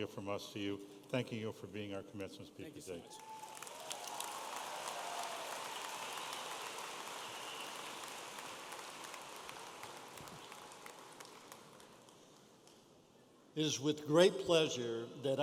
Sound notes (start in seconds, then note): 3.1 audience applauding and cheering